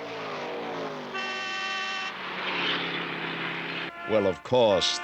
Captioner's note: cars passing; horns honking